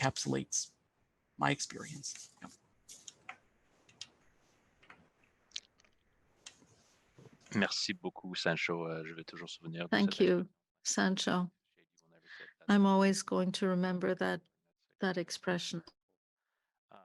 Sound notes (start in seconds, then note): 3.0 speaking French